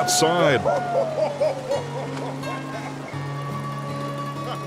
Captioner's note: laughs